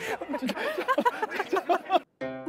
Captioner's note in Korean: 하하하하